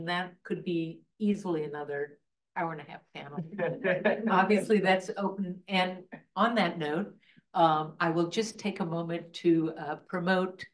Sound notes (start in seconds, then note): 3.4 laughs